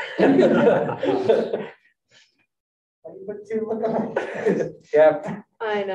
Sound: group laughing

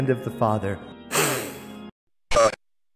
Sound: angelic sniffle

